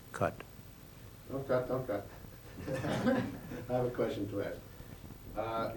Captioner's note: laughter